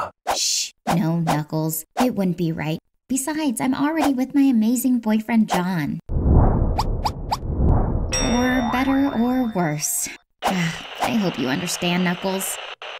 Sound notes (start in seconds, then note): 10.4 sighs